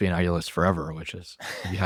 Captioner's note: laughs